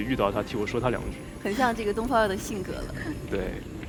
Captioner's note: laughs